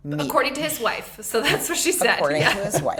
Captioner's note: laughs